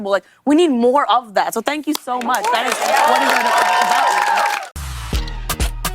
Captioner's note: cheers and applause